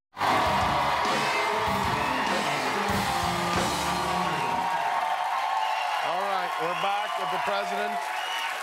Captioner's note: cheers and applause